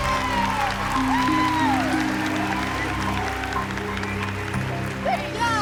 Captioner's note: cheering; clapping